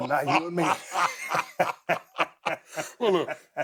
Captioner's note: both laughing